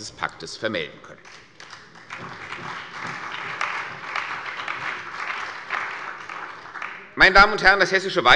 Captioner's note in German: Beifall bei dem BÜNDNIS 90/DIE GRÜNEN und der CDU